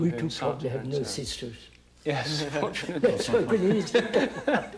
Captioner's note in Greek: γέλια